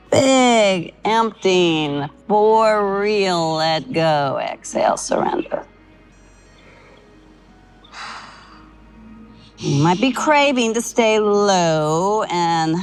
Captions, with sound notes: big, emptying, for real. Let go. Exhale, surrender. [Sighs] You might be craving to stay low and...